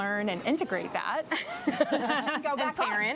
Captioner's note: all laughing